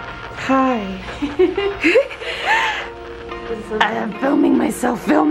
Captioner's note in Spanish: riendo